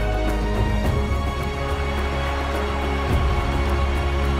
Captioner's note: cheering